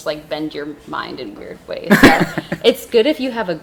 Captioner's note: laughing